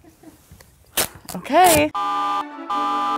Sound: tape ripping; alarm buzzes

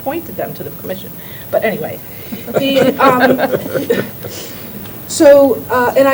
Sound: laughter

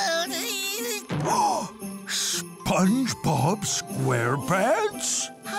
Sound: gasping

